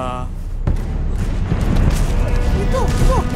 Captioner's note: distant boulders crashing